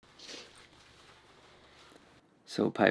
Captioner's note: Piper sniffs